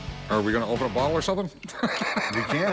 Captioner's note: laughs